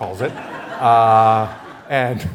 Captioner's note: laughter